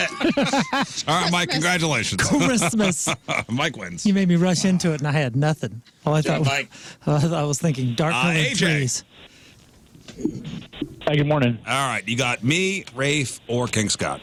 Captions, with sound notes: (Laughing) All right, Mike, congratulations. Christmas. Mike wins. You made me rush into it and I had nothing. Yeah, Mike. I was thinking dark and-- I'm AJ. Hi, good morning. All right, you got me, Rafe, or Kingscott.